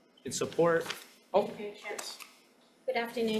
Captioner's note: paper rustling